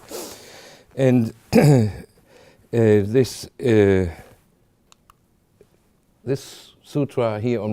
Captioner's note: clears throat